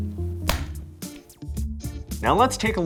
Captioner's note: hands slapping